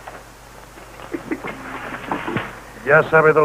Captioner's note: chuckles